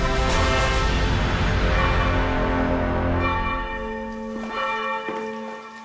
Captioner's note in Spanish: Toque de campanas